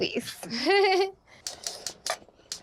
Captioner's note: laughs